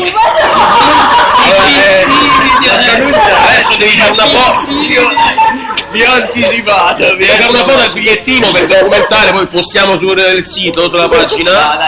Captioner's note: laugh